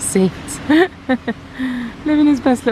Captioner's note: laughs